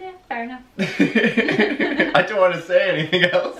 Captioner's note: laughter